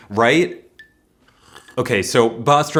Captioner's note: sip